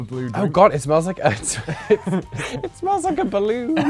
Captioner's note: laughs